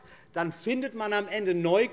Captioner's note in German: none